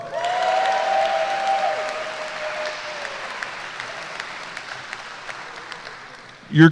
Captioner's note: applause